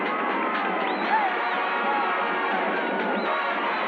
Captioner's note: people cheering